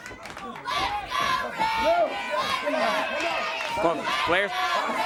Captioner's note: crowd chanting